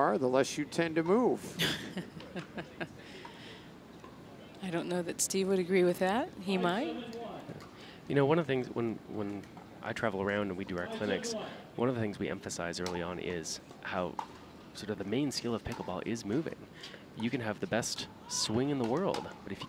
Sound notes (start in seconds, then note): 1.5 laughter